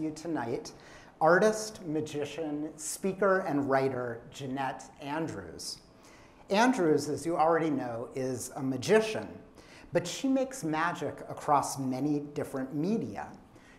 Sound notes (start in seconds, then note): none